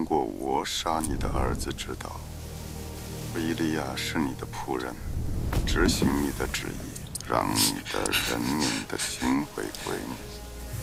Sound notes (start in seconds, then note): 5.4 body thud